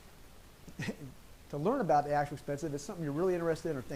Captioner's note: chuckles